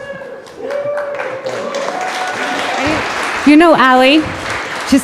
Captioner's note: audience cheering